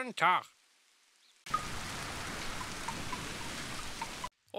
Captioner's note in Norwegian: tungt regn